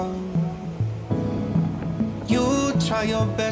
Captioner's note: wind blowing